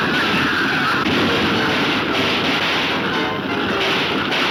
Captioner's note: gunshots banging